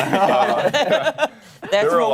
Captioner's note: laughter